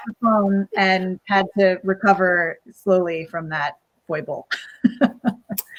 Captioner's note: laughs